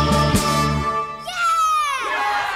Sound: cheers

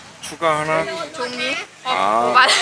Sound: laughing

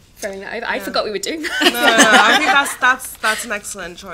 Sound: laughter

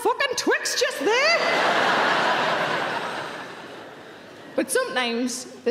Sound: audience laughing

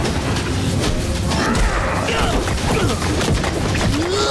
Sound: grunting

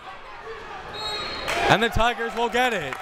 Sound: whistle tweeting

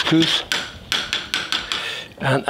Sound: spoon taps

